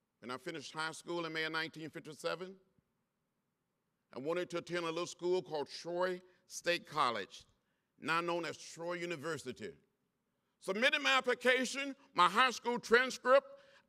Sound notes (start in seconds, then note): none